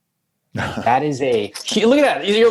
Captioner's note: laughing